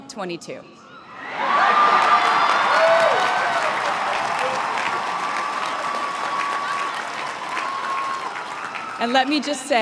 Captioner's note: crowd cheering and applauding